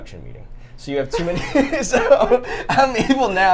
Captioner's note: everyone laughs